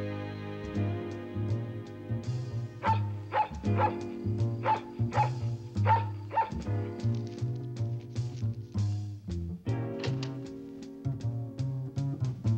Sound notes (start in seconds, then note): 2.8 dog barking